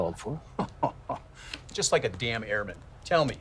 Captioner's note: laughs